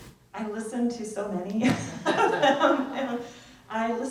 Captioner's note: laughs